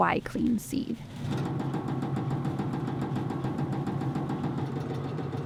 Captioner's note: machine banging